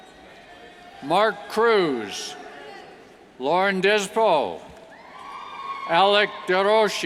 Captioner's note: cheers